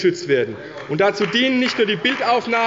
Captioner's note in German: Beifall bei Abgeordneten der CDU